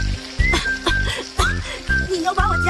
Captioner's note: coughs